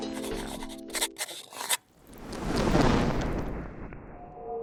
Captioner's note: pen scrapes